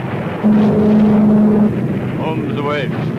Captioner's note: plane engine revving